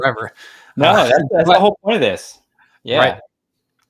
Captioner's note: laughs